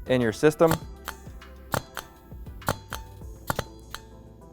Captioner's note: valves clicking